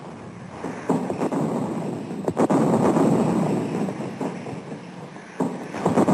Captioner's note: heavy artillery booming